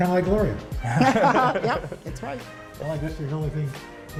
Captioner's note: laughter